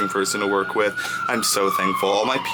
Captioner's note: siren wailing